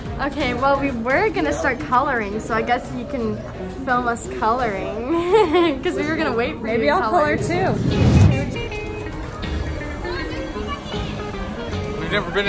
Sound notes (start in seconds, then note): 5.1 laughing; 8.4 adventurous guitar music